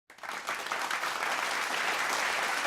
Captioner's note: clapping